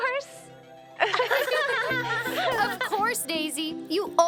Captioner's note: all laughing